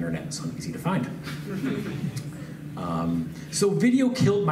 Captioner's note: laughs